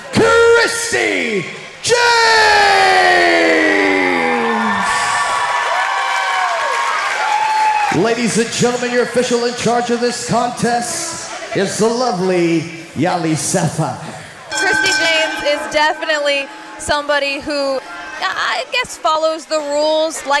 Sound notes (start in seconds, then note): 2.6 audience cheering